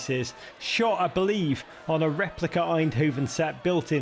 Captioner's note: crowd bustling